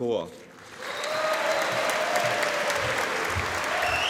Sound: audience applauding

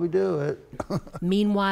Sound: laughter

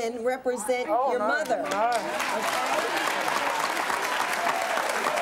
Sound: applause

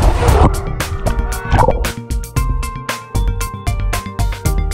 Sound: water gurgling

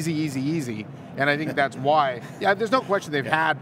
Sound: laughing

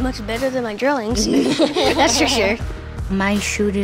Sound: all laughing

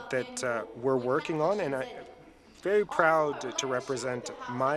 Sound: speaking French

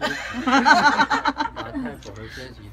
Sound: group laughing

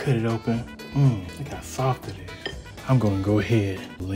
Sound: moans

